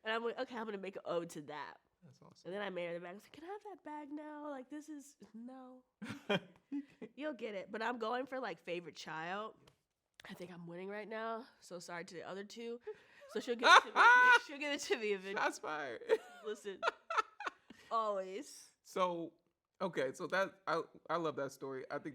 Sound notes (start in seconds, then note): 16.2 laughs